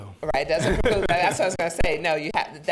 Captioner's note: chuckling